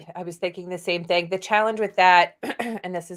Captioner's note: clears throat